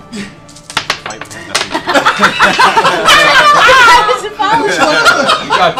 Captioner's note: laughter